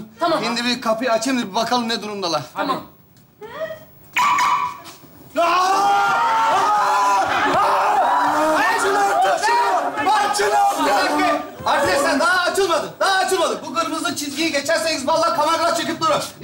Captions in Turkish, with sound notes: -Şimdi bir kapıyı açayım da bakalım ne durumdalar? (Daraba otomatik sesi) (Bağrışmalar) -Açın artık şunu. Açın artık. -Arkadaşlar daha açılmadık. Daha açılmadık. Bu kırmızı çizgiyi geçerseniz valla kameralar çekiyor.